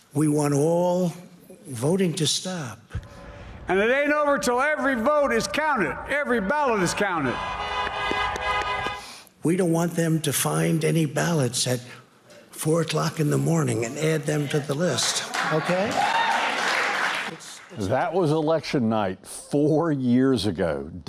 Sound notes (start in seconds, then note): 6.4 horns honk; 7.2 audience applauds; 16.2 audience applauds